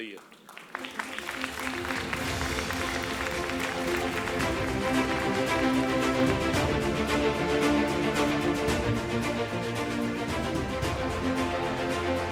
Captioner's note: applause, Music